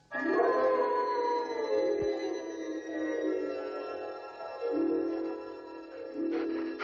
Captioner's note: haunting music; wolf howling